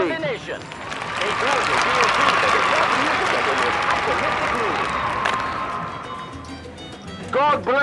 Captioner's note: applause